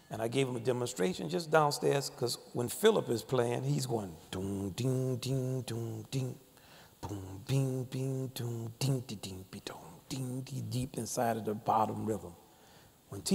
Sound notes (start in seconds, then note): 5.0 mimicking bass notes